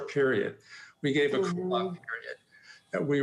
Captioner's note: faintly speaking